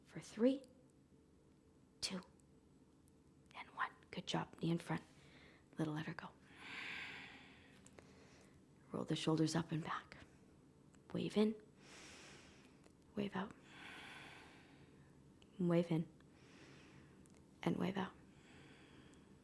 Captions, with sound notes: For three, two, and one. Good job. Knee in front. Then let her go. Roll the shoulders up and back. Wave in (inhaling), wave out (exhaling). Wave in (inhaling) and wave out (exhaling).